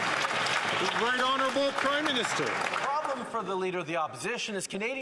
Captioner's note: some Applause